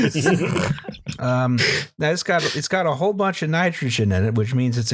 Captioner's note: laughter